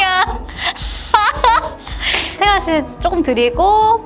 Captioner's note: laughter